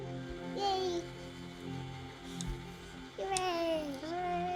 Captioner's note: emotional music; child mumbling